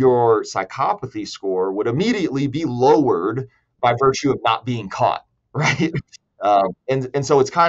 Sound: laughs

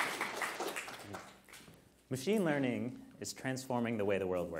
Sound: applause

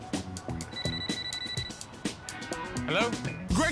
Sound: cellphone rings

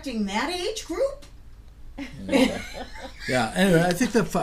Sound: laughing; voiceover

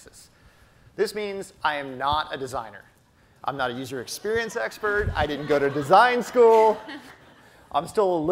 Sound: audience laughter

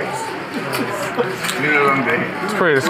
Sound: players murmuring in background

